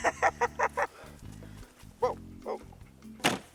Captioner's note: woman laughs